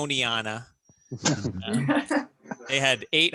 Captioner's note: laughing